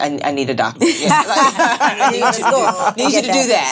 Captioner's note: laughing